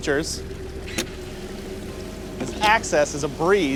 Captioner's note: motor wincing